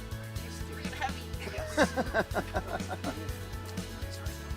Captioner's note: laughter